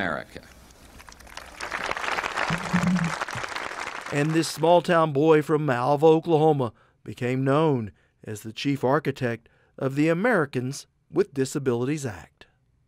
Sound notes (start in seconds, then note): 0.9 applause